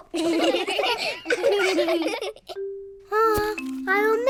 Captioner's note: all laugh; children laughing